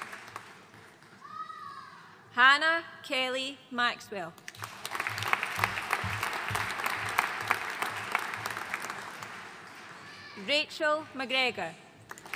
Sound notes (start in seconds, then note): 4.5 audience applauding